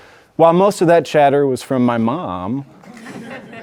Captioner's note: audience laughing